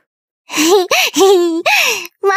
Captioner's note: giggles